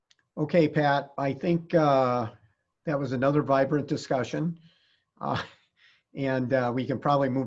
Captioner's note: giggles